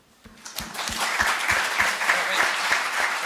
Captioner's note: applause